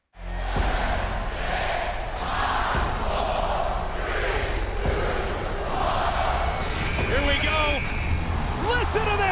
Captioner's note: fans chanting